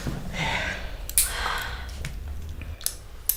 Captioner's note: click!